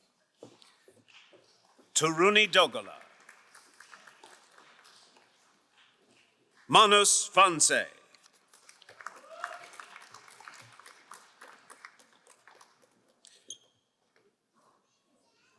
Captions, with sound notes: Taruni Dalgala. (crowd applauding) Manus Franse. (crowd cheering and applauding)